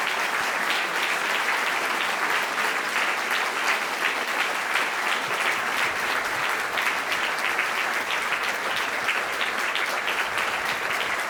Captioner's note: applause